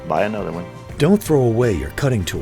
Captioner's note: voiceover